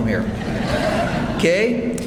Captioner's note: audience applauds